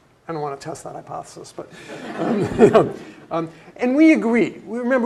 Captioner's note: laugh